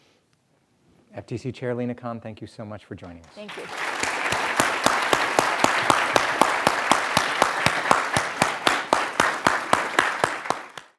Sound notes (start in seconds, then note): 3.1 applause